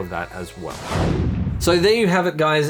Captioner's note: air whooshes